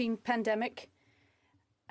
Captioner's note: speaking French